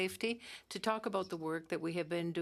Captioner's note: speaking French